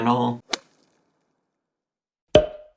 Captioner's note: whip cracks